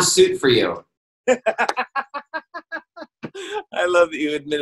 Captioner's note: laughs